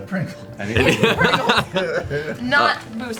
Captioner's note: all laugh